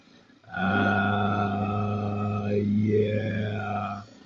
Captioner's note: vibrating